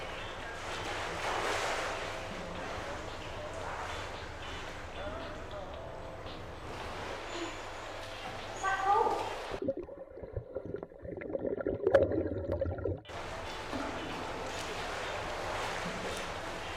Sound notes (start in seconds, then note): 0.0 water splashing; 3.2 faint radio beat music; 9.4 water bubbling